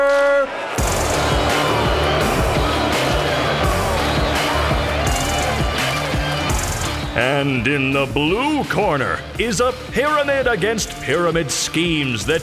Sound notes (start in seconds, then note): 0.0 cheering crowd; 0.9 upbeat music